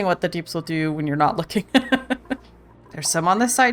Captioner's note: laughs